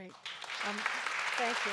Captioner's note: audience applauds